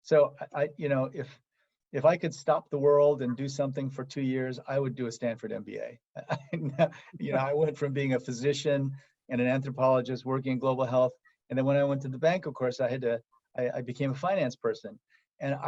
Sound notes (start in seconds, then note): 6.2 laugh